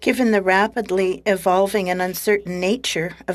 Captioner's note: speaking French